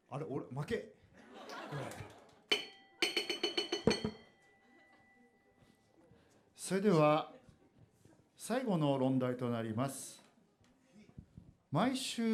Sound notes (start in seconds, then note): 1.2 audience laughs; 3.0 gong